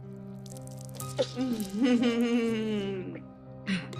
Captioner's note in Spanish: Risas